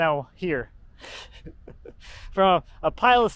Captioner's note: chuckles